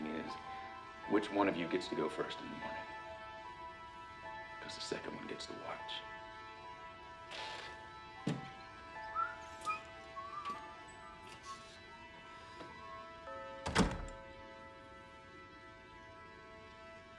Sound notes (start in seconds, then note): 9.0 Tom whistling